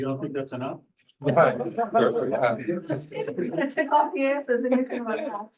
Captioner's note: room laughs